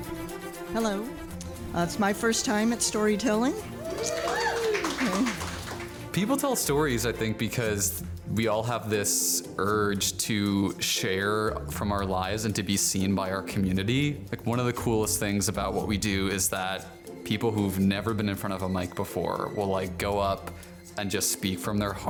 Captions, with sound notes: - Hello, it's my first time at storytelling. (crowd cheers) - People tell stories I think because we all have this urge to share from our lives and to be seen by our community. Like one of the coolest things about what we do is that people who've never been in front of a mic before will like go up and just speak from their heart